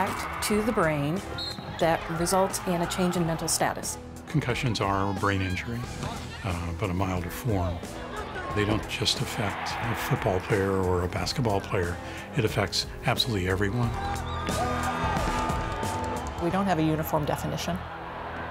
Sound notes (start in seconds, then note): 13.9 crowd noise